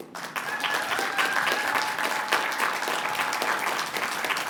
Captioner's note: applause